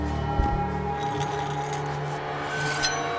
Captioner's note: metal dragging